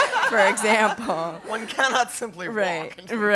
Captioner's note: laugh